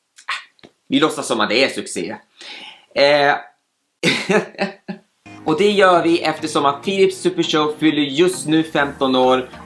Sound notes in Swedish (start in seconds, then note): 4.1 Skrattar